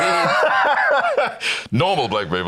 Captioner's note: laughs